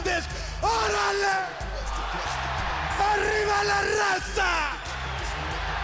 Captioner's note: Konnan speaking foreign language